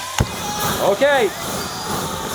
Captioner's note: flames roaring